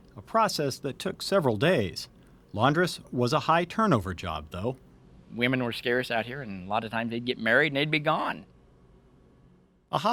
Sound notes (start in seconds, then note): none